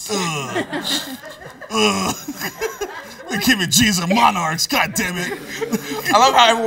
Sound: laughs

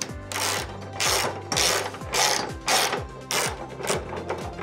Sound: socket wrench clicking

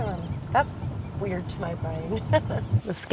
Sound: laughter

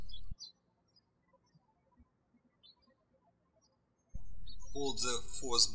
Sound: bird chirping

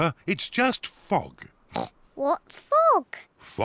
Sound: oinks

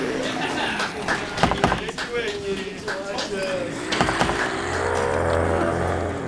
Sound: wood thumping; zombies growling; suspenseful music

